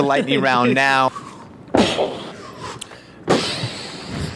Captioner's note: stomps